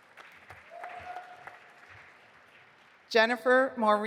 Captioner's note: audience applauding